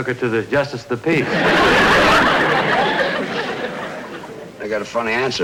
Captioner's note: audience Laughing